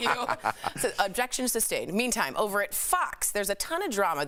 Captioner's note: laughter